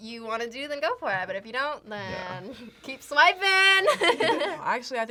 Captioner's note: laughs